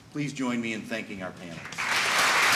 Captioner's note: applause